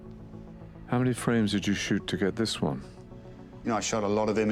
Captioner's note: voiceover